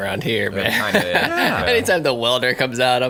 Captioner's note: hosts laugh